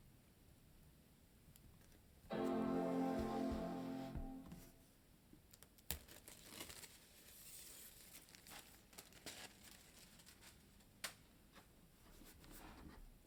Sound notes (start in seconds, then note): 2.3 MacBook startup sound; 6.0 paper rustling